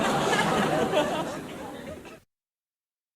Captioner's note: crowd laughing